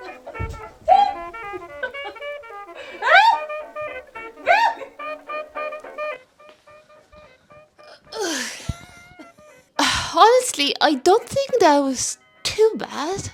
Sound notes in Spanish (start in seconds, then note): 0.0 llora y ríe al mismo tiempo; 0.4 golpe; 1.8 risas; 8.0 sonidos de anciana; 9.8 Suspira profundamente; 9.8 está claramente sin aliento